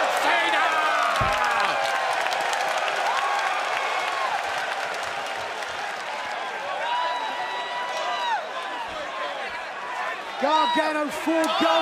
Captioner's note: crowd chatter